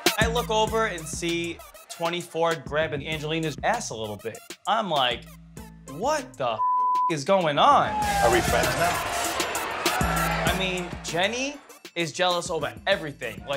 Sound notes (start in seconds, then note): 6.6 beep